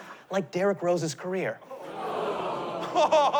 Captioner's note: audience groans; chuckles